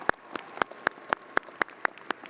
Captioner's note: audience applauding